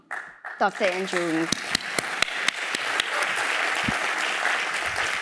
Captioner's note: applause